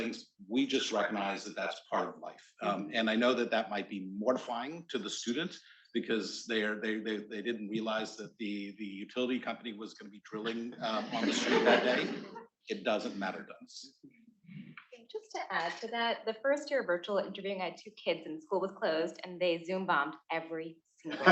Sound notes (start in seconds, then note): 10.2 attendees laughing